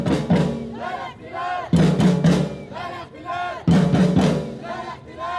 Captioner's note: speaking foreign language